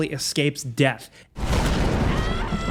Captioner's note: explosion blasting; Lara screaming